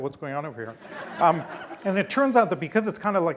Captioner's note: laughing